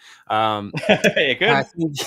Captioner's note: laughs